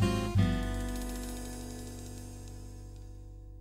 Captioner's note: dropping sound